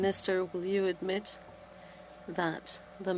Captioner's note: speaking French